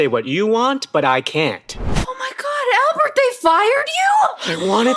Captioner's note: flashback sound